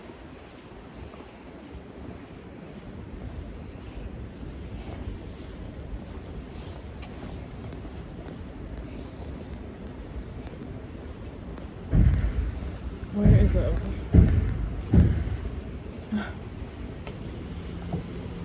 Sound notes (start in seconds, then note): 11.9 booming in the distance; 15.7 chuckles